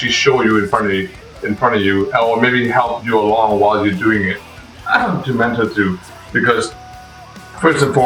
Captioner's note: clears throat